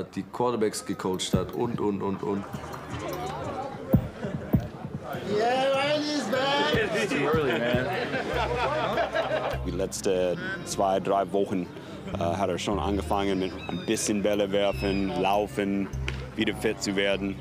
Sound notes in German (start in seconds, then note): 2.8 Stimmengewirr, dumpfe Klänge; 9.0 Lachen